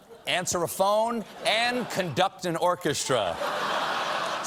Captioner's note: laughter